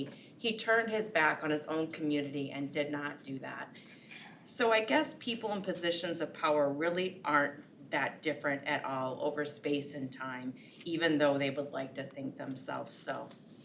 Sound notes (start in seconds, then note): none